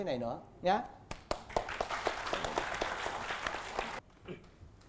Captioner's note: applause